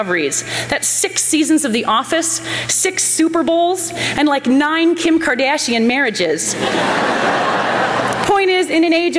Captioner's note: laughter